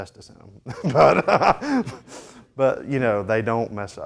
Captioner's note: laughs